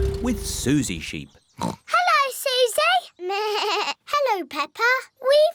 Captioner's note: oinks; bleats